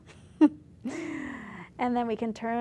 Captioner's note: laughs